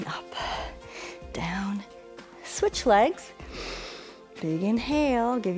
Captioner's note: inhales